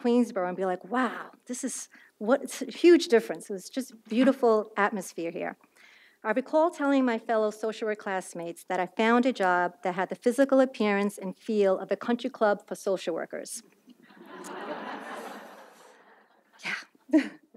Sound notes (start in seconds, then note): 14.1 audience laughs; 14.1 laughs